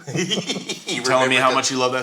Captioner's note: all laughing